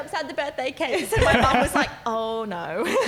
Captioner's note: laughing